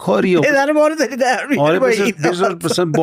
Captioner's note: laughs